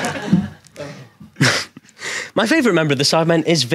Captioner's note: audience laughs